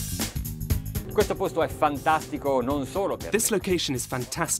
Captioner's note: foreign speaking